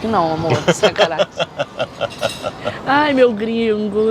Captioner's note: laughs